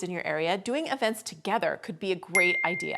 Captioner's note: bing sound effect